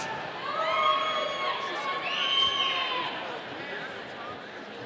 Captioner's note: audience cheering